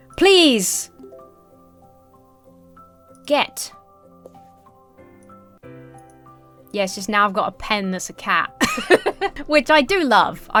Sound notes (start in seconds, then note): 1.3 calming music; 8.6 laughs